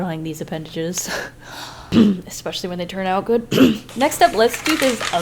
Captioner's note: clears throat